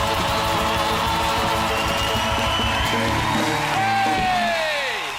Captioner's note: audience claps and cheers